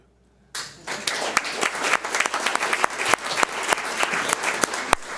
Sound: audience applauds

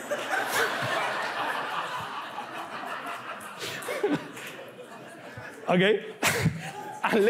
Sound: laughs

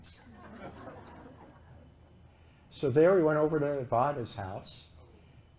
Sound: laughter

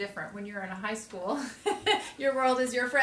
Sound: laughs

